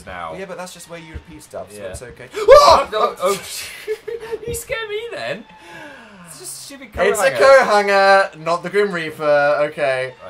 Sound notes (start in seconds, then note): 2.3 screams; 3.6 both laugh